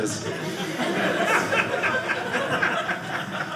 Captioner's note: audience laughing